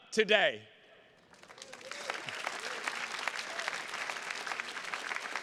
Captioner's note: attendees clapping